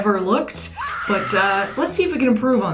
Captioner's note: scream